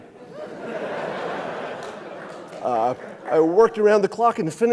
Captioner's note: audience laughing